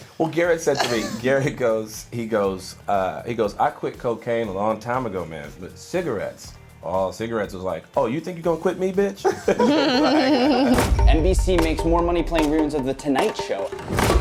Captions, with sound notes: - Well Garrett said to me, Garrett goes, he goes, “I quit cocaine a long time ago, man. But cigarettes. Oh, cigarettes was like, ‘Oh, you think you're gonna quit me, b-tch?’” - [LAUGHING] - NBC makes more money playing re-runs of The Tonight Show.